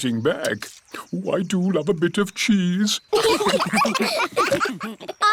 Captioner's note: laughter